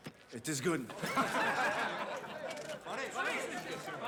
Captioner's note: laughter